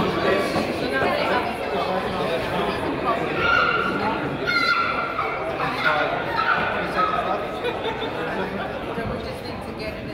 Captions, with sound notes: (kids yell) - Just need to get there,